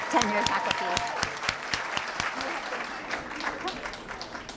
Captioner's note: applause